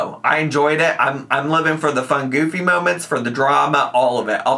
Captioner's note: none